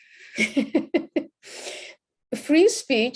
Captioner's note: laughs